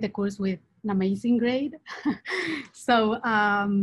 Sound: laughs

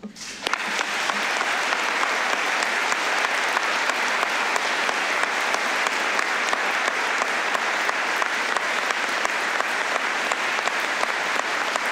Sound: applause

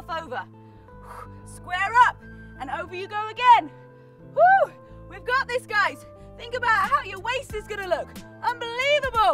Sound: whew

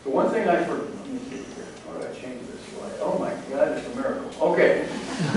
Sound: laughter

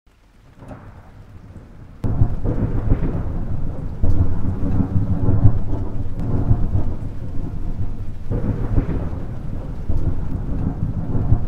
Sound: thunder noises

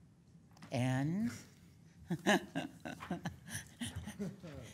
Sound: laughing

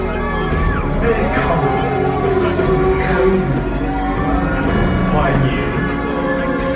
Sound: performers speaking in foreign language

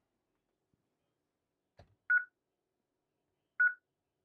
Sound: beeping

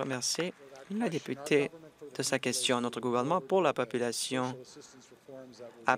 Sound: applause

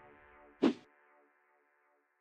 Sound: swooshes

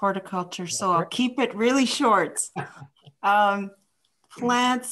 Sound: chuckles

